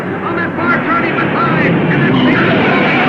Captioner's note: cars revving; tires squealing